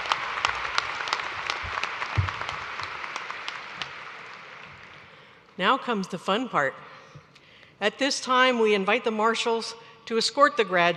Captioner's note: cheers and applause